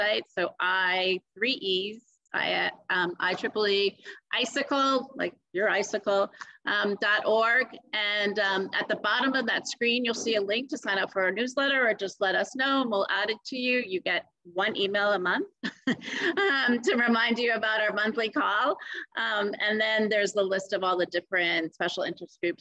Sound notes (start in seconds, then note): 16.0 laughs